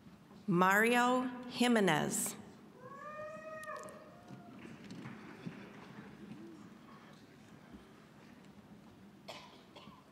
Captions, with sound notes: Mario Jimenez. (scattered cheering)